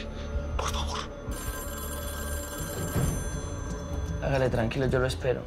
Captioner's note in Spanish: Suena el teléfono